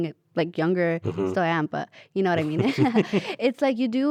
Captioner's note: laughs